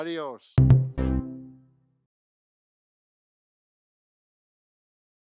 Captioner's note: upbeat three-note tone